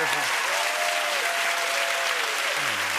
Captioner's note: cheers and applause